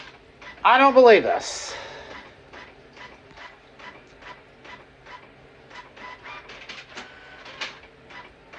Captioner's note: document continues printing